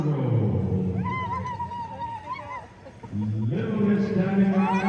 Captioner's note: ululating